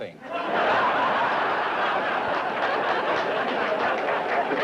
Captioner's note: laughter